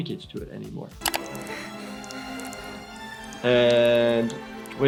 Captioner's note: trickling